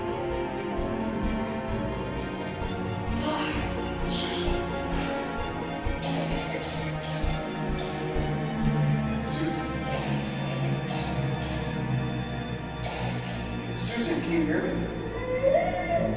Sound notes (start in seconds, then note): 6.6 Susan coughing; 15.1 Susan wailing